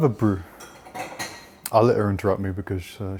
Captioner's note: clattering